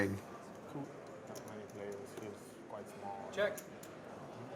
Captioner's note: poker players chattering